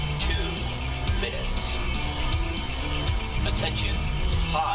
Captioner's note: alarms & Bells